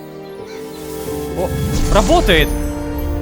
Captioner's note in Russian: Звук телепортации Искры